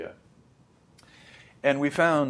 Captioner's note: smacks lips; inhales